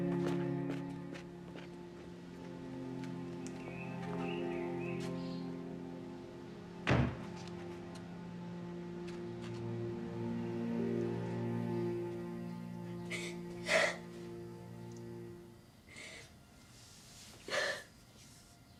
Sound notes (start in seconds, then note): 13.0 Manny sobbing